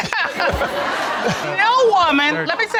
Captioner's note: all laughing